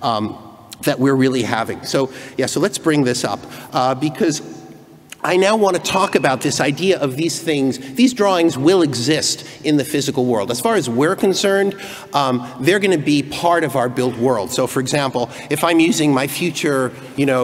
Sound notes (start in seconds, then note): none